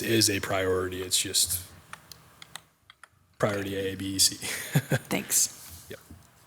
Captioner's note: chuckles